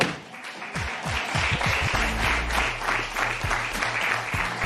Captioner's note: applause